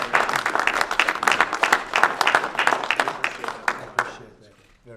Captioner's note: applause